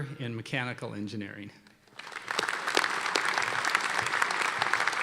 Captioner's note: applause